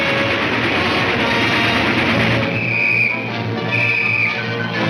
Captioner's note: whistle tweets